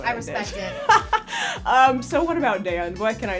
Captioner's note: laughs